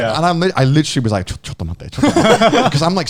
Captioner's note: speaks in foreign language